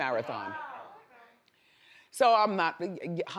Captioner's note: audience groans